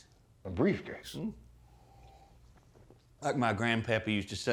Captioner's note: slurping